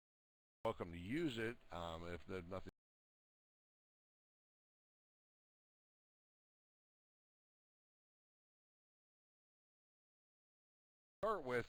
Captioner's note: audio drops